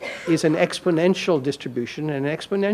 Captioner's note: audience member coughs